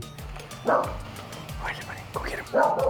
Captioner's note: dog barking